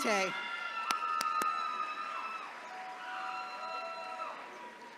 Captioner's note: attendees cheering